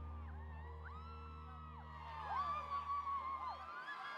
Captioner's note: crowd cheering